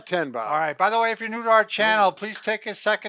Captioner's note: hands clapping